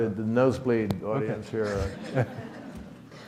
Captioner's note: audience laughs